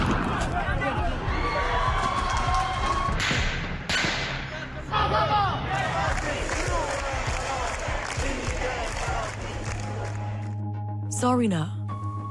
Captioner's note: speaking non-english; crowd chanting